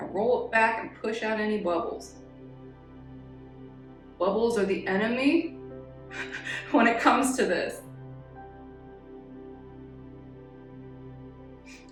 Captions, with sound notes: now roll it back and push out any bubbles. (calm music) Bubbles are the enemy (laughs) when it comes to this (calm music)